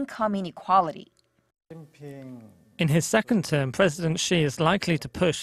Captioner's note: Korean